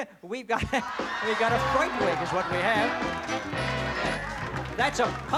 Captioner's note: laughs